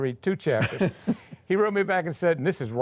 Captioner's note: laughing